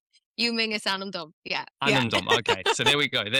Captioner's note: laughs